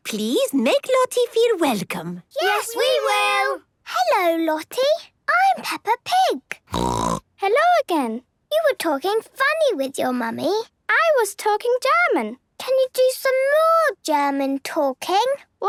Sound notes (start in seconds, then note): 6.7 snorting